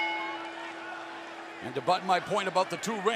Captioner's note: bell ringing